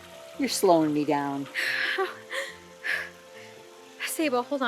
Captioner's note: hyper-ventilating; chuckles